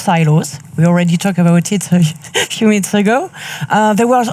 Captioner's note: chuckles